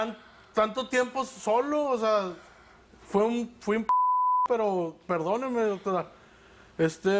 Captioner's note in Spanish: Bip